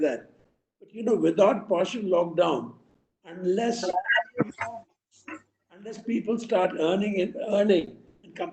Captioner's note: audio disturbance